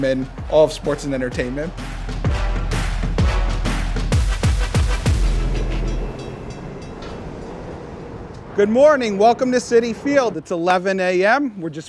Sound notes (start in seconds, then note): 2.3 upbeat music; 5.4 train bell clinking